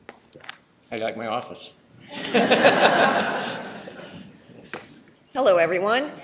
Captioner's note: laughing